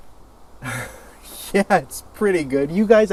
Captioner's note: chuckles